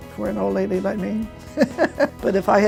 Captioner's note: laughing loudly